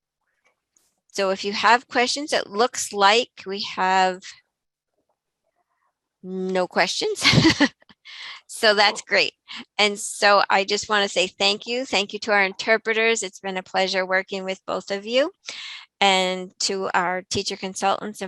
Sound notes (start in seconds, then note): 8.2 laughs